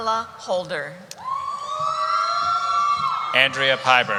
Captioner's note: cheering